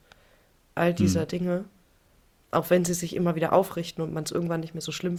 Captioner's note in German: räuspern